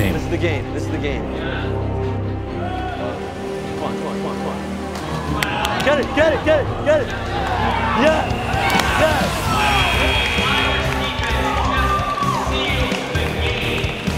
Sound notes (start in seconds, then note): 7.0 cheering